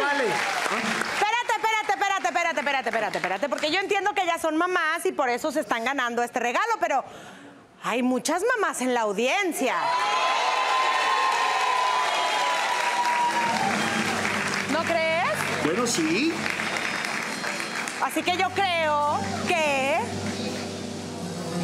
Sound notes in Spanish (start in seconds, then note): 9.8 Gritos; 10.0 Aplausos